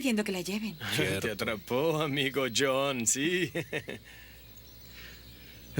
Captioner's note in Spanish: risos